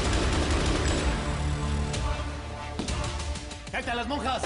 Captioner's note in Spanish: Disparos